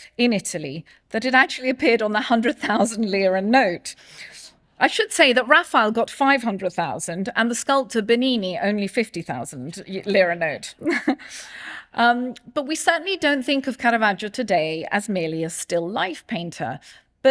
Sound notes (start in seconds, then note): 10.8 chuckles